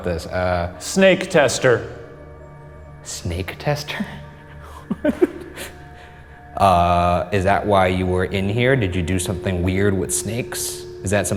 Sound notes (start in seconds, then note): 3.9 laughing